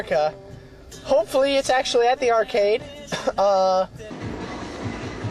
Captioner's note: cough